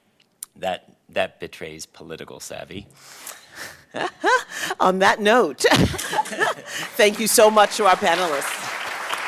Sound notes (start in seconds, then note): 2.9 laughter; 8.5 applause